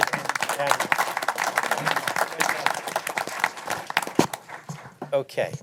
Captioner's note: applause